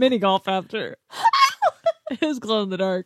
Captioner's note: laughs